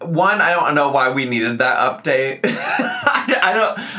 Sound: laughs

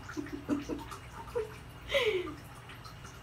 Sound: giggle

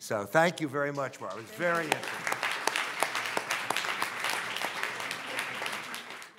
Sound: audience applauding

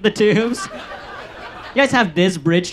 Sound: audience laughs

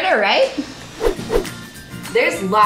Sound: double woosh

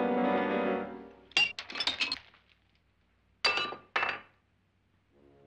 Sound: suspenseful music; glass shatters

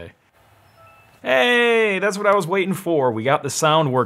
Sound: computer beeps

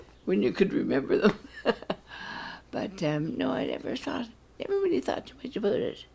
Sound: chuckles

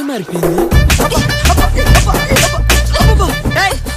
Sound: slaps

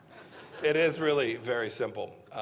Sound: laughter

